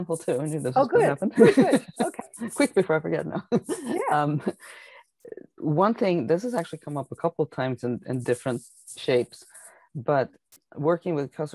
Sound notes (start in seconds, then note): 1.2 laughing